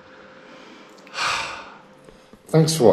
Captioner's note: sigh of relief